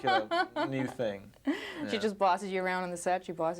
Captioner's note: reporter laughing